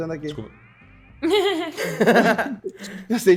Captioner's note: laughs